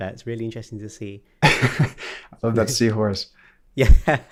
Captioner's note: laughs